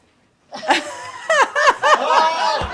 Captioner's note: laughter